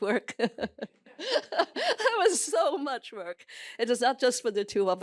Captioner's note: laughs